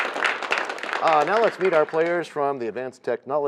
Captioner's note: applause